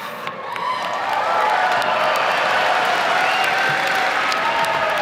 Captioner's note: audience cheering